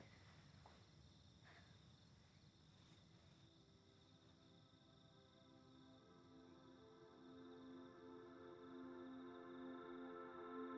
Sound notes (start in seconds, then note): 3.4 crickets chirping; 3.6 placid music